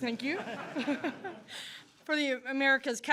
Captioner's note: laughter